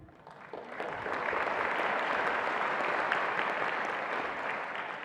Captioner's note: attendees applauding